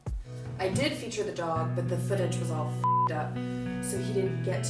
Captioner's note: beeps